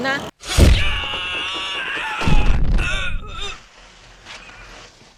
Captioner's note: 俾攻擊後的奇怪叫聲